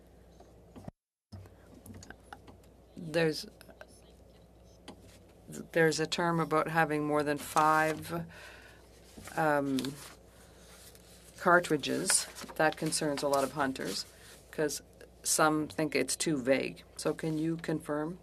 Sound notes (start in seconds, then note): 4.0 speaking French